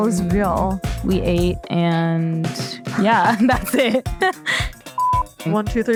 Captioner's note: laughs